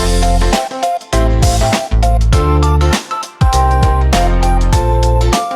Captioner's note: snap